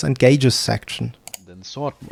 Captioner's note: click